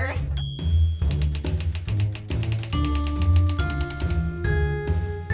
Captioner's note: typewriter keys clacking